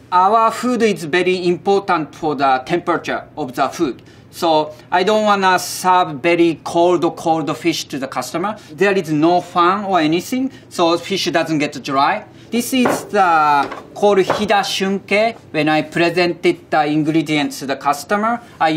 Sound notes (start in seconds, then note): 12.9 text chiming